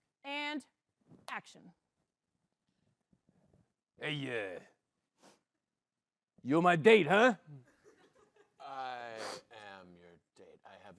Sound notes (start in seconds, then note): 5.2 gruffly